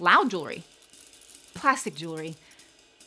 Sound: jewelry clicking

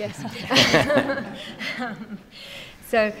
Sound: laughing

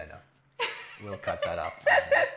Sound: laughing

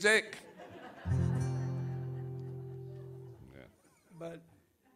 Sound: audience laughs

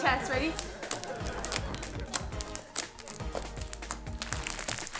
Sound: slime crackling

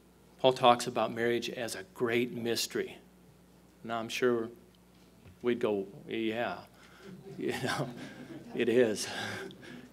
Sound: chuckles

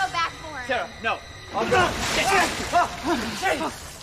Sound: surprised shouts

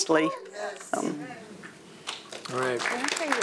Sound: audience cheering

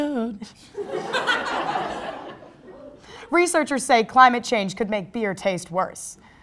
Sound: crowd Laugh

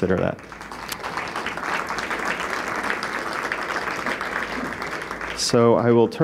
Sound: applause

